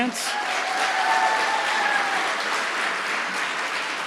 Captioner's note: applause